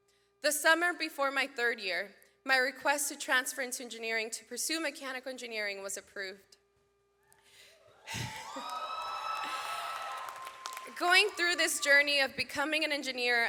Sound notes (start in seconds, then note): 8.0 audience cheers; 8.1 laughs